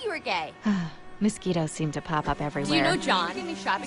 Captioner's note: sighs